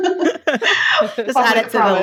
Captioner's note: laughing